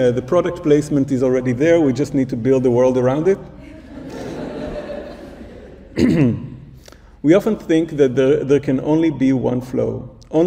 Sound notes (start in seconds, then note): 3.5 audience laughs